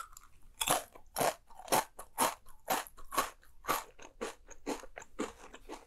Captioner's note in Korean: 와사삭 와작 와그아아아자작